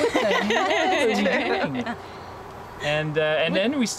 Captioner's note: laughter